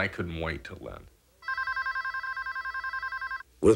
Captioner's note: phone ringing